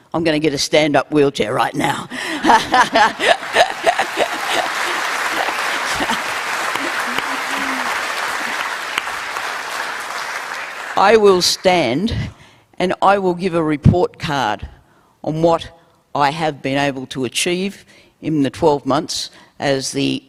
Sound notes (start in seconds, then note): 6.3 laughs; 6.6 applause